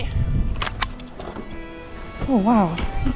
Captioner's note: gate clinks